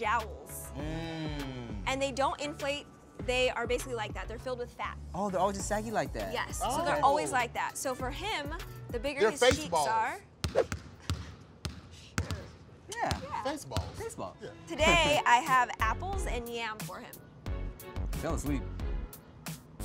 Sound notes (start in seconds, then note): 8.5 ball bounces